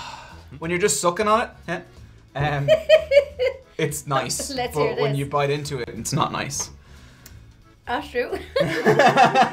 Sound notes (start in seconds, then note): 2.6 laughing; 8.7 laughing